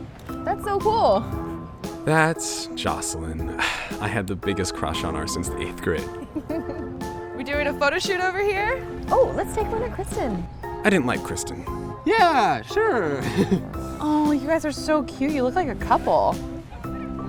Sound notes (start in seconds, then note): 6.1 giggles; 13.1 nervous chuckle